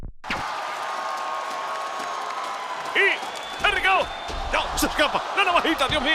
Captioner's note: applause